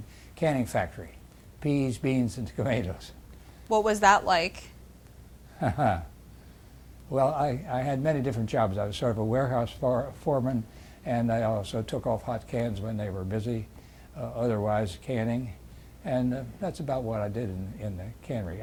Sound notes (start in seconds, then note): 5.6 laughs